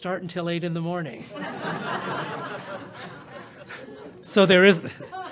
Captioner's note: laughter